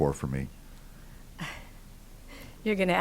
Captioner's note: laugh